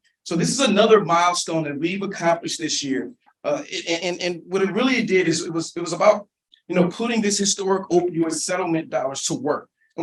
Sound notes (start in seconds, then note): none